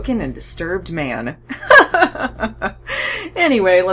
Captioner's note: awkwardly laughs